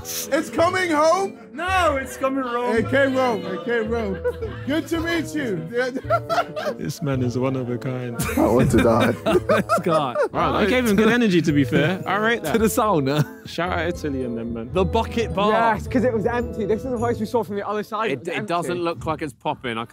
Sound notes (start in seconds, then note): 5.4 laughing; 8.2 all laughing